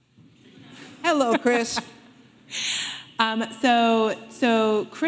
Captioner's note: audience laughing